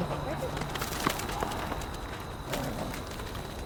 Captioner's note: dog running